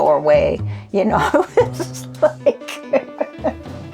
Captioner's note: laughs